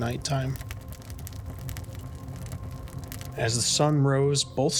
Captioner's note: fire crackling